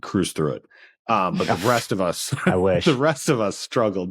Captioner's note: laughs